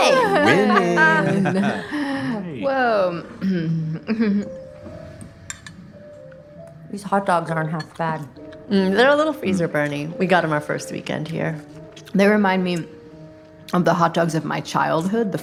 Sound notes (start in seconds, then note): 0.0 cheers; 4.4 piano music resumes; 5.5 cutlery clinking; 11.9 chewing